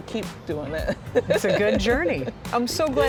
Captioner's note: laughing